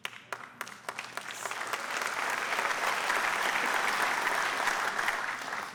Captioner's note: audience applause